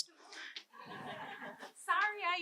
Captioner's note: audience laughing